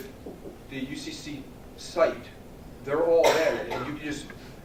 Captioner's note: cough